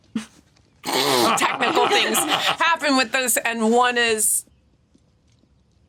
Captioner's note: snorts